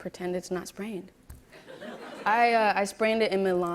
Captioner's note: laughter